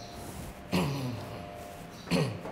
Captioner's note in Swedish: harkel